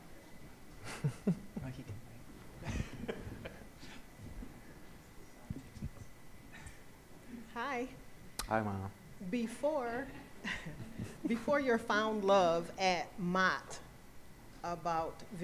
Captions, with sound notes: (laughs) - Hi. - Hi, Mom. (audience laughs) - Before your found love at Mott about visual arts,